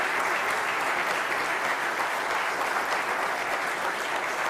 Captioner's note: applause